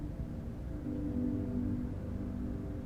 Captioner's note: none